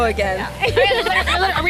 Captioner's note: friend laughs